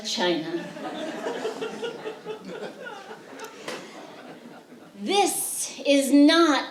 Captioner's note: laughter